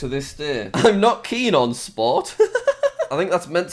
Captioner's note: laughs